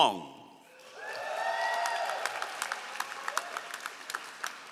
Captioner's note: all applauding